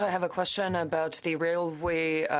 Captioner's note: speaking French